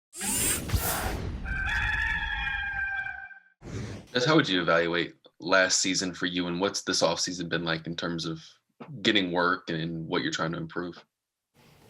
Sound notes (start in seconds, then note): 1.4 gamecock crows